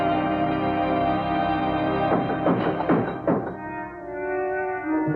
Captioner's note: knocks